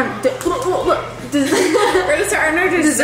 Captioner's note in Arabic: ضحك